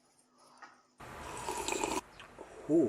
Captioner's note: noisily sips cofee